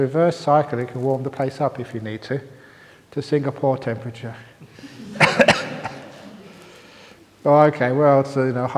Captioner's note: laughter